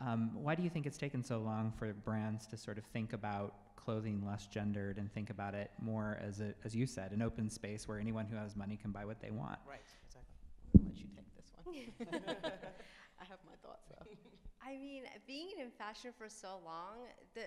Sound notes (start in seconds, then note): 11.7 laughs